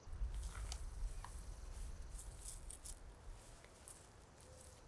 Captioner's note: soil shifting